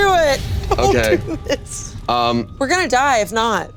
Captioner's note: laughs